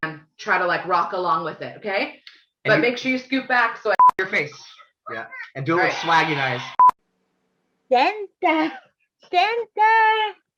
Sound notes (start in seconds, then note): 4.0 beep